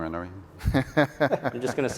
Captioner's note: laughing